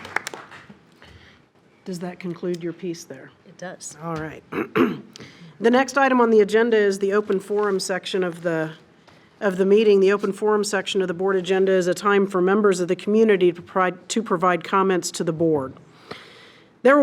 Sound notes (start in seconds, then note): 0.0 trustees applaud